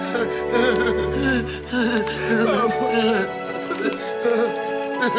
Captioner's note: heavy sobbing